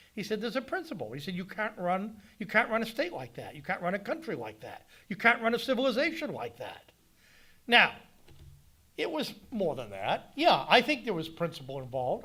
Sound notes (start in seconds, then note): none